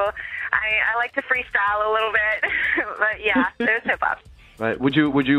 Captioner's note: laughs